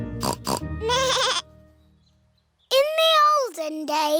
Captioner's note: both giggling; snorts; bleats